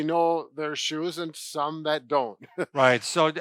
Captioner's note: chuckles